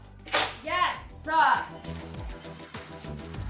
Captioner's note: nail gun clicks; upbeat music continues